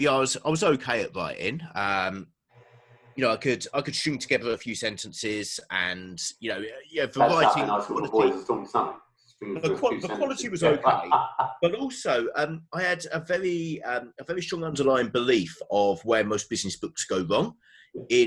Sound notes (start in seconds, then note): 7.1 murmurs; 9.5 laughs